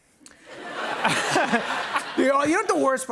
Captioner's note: laughter